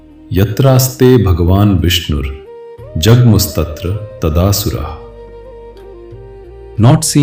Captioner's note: sanskrit verse recitation